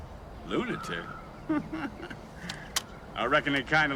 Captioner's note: laughs